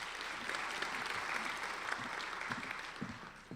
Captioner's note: applauding